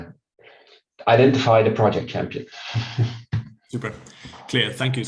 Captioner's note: chuckles